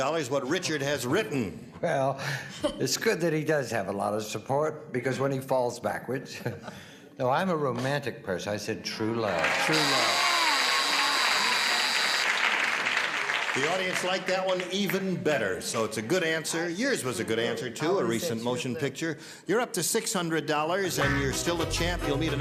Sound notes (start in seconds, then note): 9.3 applause; 9.6 buzzer sounds